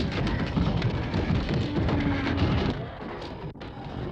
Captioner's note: groaning